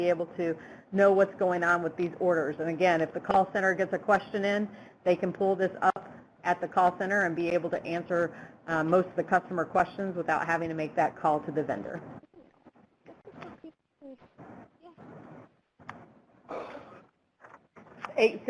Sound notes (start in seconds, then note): 11.7 Static; 13.7 background Talking